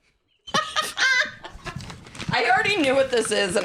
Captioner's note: cackles